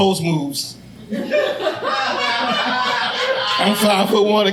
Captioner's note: audience laughing